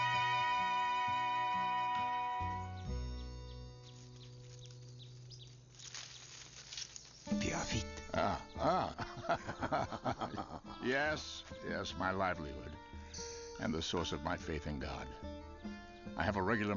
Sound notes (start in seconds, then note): 7.7 whispers; 8.1 laughs